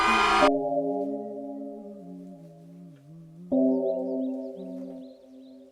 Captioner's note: continues humming